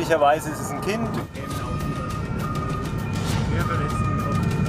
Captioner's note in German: Sirenen, spannungsvolle Musik